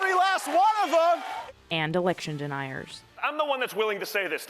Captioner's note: cheering and applause